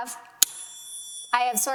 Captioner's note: bell ringing